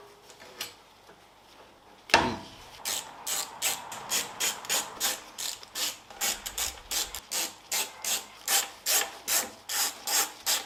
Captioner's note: working sound